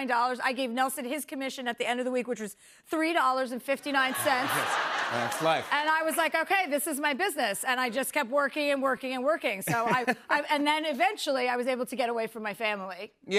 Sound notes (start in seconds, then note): 3.9 laughter